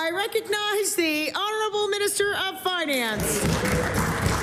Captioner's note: applause